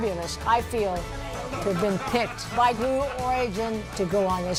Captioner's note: laughter